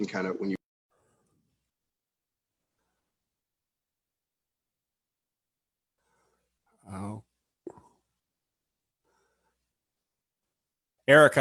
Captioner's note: audio cuts off